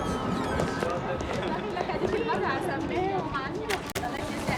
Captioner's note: thunder rumbling; people chattering